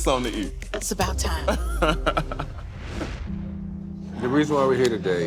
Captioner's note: laughs